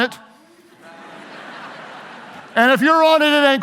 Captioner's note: audience laughs